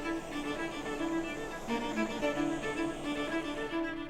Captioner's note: torch hissing